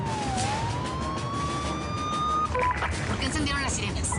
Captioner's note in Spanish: Suenan las sirenas